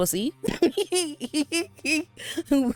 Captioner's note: laughs